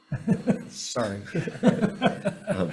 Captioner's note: man laughing